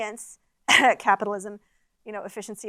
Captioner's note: cough